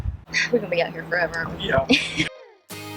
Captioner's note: sighs; upbeat music